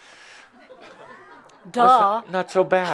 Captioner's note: a few chuckles